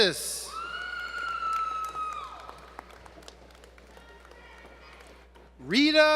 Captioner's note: applause